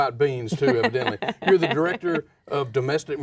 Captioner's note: laughs